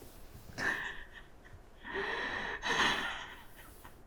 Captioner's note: sobbing